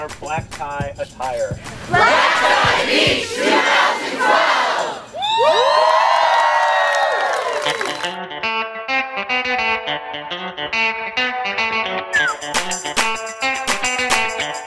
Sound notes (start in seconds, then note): 4.9 cheers